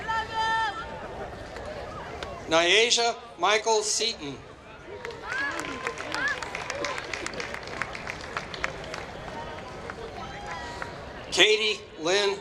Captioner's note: applause